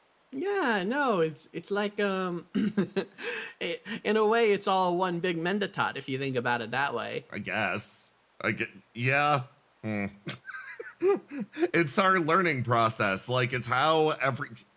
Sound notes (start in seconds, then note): 2.6 chuckle; 9.9 laugh